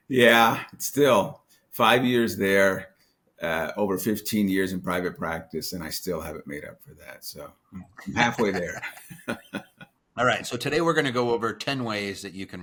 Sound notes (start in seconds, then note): 8.0 people laughing